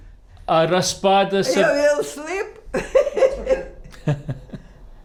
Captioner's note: laughing